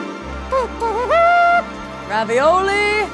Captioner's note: triumphant orchestral music; hums a fanfare